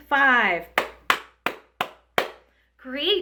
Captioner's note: woman clapping